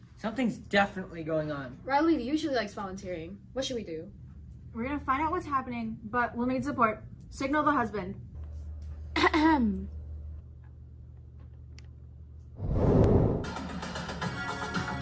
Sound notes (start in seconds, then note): 9.1 mom clears her throat